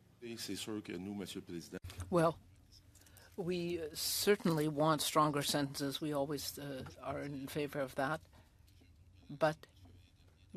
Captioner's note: speaking French